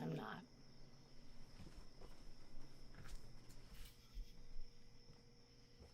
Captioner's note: crickets chirping